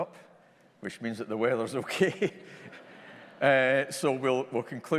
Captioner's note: chuckles